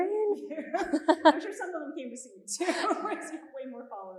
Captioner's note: chuckles; chuckles